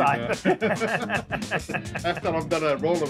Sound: laughing

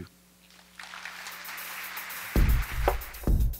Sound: applause

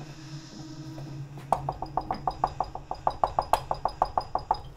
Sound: knocking

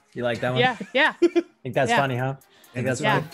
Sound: laugh

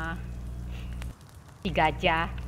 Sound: sniff

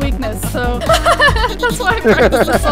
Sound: laughs

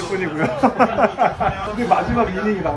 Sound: laugh

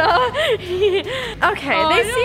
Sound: laughing

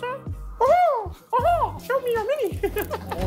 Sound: Ethan imitating Mickey Mouse

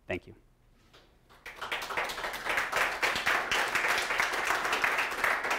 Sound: audience applauding

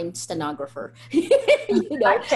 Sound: laughter

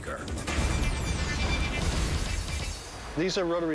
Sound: thunder crashing

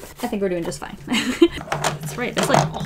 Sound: laughs

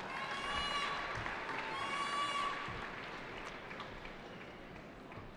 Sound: cheering

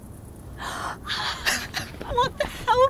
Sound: gasps; laughter

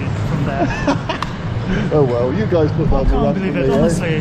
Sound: laughs

